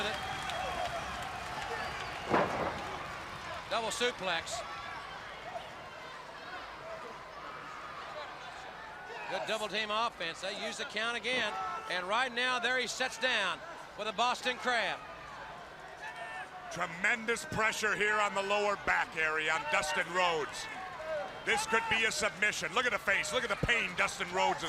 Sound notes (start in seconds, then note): 16.1 crowd chatter